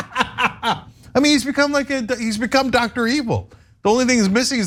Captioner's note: laugh